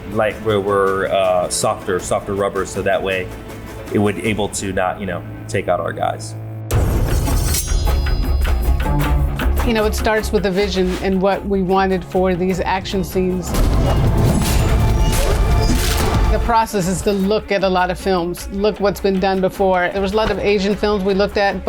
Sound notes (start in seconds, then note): 6.7 upbeat Arabian music; 7.0 sword slashing; 13.5 weapons clashing